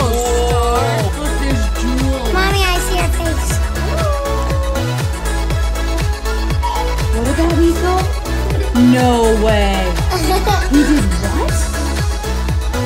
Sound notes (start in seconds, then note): 10.1 laughs